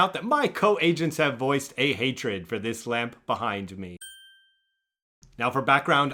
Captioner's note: wink sound